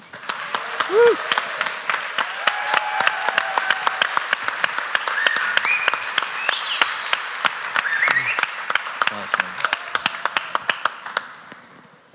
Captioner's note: applause